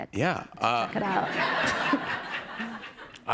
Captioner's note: laughter